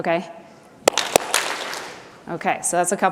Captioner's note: clap, clap